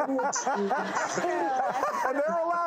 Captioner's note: and crowd laughs